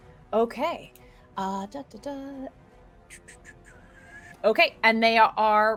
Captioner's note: whistles